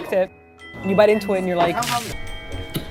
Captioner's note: splash sfx